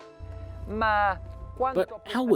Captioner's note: speaking in foreign language